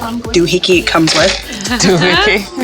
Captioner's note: laughter